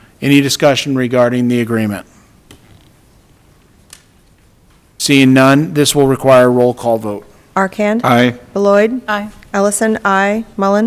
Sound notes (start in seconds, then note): none